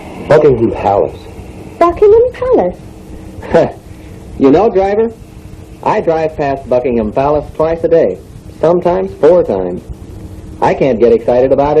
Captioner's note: laughs